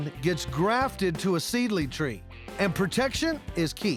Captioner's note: none